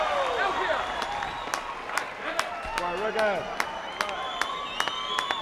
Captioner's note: crowd applauding